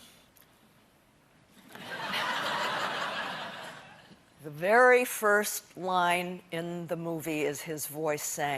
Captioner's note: laughter